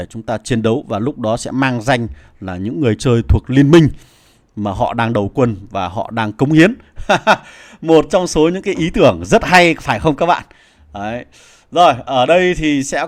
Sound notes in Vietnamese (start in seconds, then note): 7.0 tiếng cười